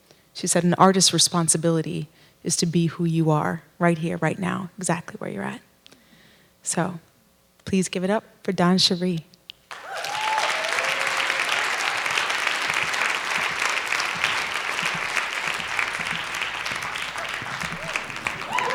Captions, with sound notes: She said an artist's responsibility is to be who you are. Right here, right now, exactly where you're at. So please give it up for DonnCherie. (applause)